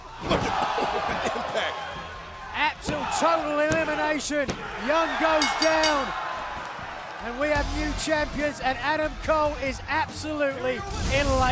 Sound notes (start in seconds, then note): 5.3 bell ringing